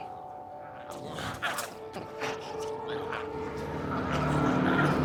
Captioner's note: glowzies growling